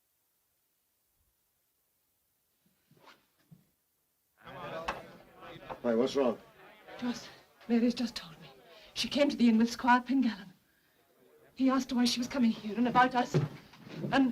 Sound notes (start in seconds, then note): 4.4 men chattering